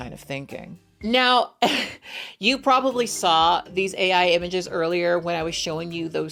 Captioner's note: laughs